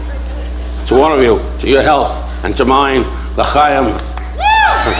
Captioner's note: speaking foreign language; audience cheering